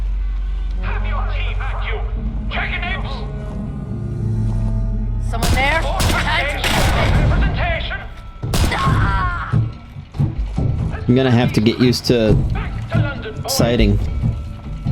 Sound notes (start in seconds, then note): 5.4 gunshots